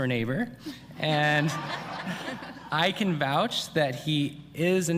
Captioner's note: laughter